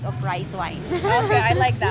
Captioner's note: laughs